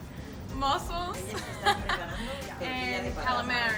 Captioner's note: laughs